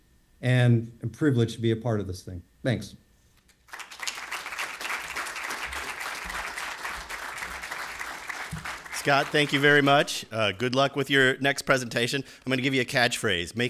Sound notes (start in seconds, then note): 3.5 applause